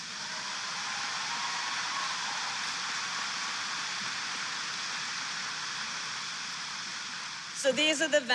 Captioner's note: applause